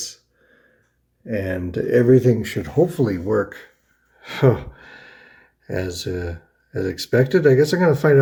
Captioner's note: huffs